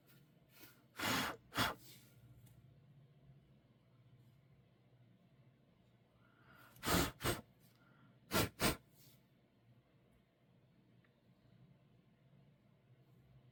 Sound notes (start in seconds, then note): 0.8 blowing air from lips